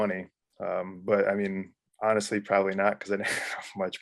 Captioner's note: laughs